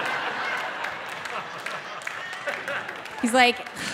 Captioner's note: audience laughing